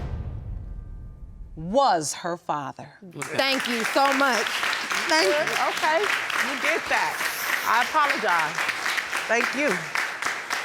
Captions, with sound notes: was her father. Thank you so much. Thank you. (AUDIENCE APPLAUDING) Okay. You get that. I apologize. Thank you.